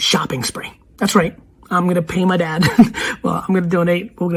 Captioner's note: laughs